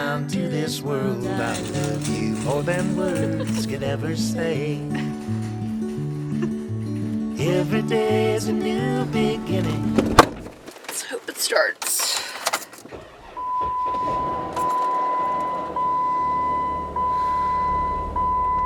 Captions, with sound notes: [chuckles in the background] Let’s hope it starts.